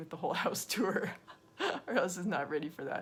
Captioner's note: laughing